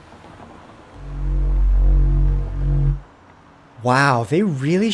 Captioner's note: portal noises